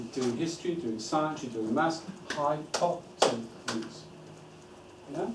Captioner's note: claps